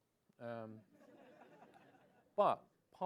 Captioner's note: laughs